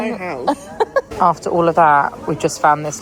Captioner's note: laughing